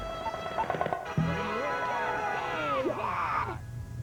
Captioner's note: cheering